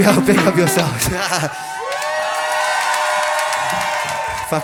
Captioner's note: cheers and applause